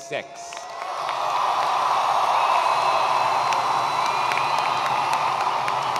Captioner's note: attendees cheering and applauding